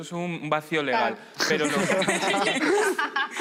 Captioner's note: laughter